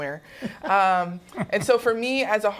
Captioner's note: laughter